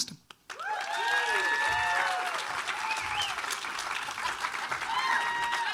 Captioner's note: audience applauding and cheering